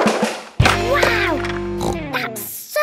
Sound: snorts

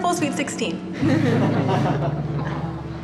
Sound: laughter

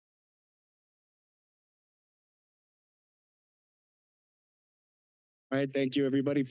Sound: silence

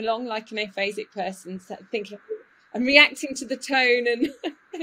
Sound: laughs

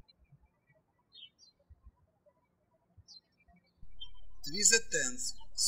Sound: birds chirping

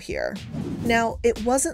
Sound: graphic whooshing

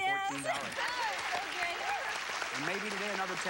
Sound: cheers and applause

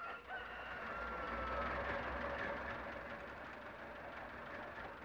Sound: engine idling

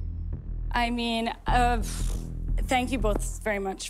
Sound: exhales sharply

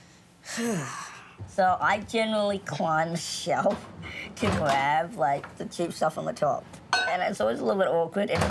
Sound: sighs

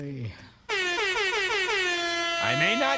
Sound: air horn blares

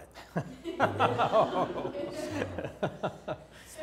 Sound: laughter

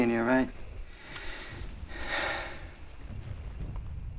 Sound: sighs

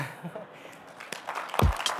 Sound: applause

